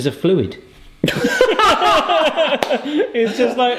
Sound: both laughing

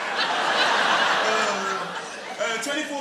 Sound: Bottom laughs; audience laughing

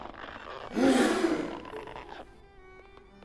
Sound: gasps

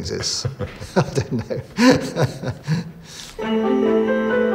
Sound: laughs

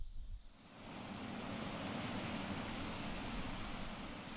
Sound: static hissing

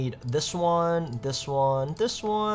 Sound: mouse clicking

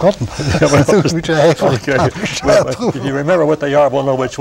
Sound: laughter

